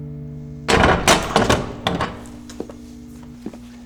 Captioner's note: door clicks open